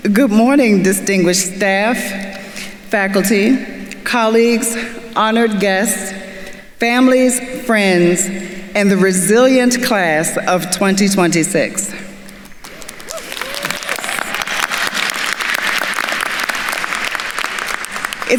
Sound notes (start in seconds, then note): 12.6 attendees cheering and applauding